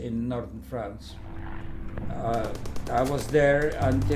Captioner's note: airplane and battle sounds